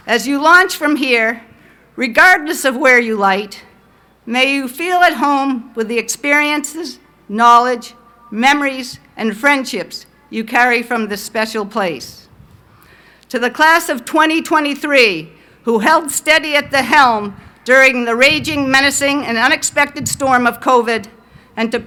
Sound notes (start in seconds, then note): none